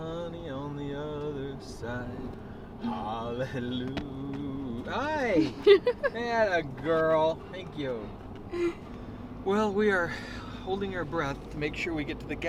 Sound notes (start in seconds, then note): 5.4 laughing